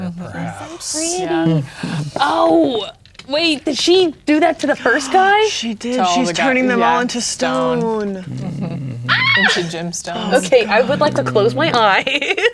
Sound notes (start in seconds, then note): 5.3 gasps; 8.6 grumbling; 9.1 squeals; 12.2 laughing